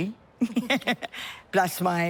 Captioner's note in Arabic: تضحك